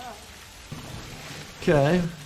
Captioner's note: water whooshing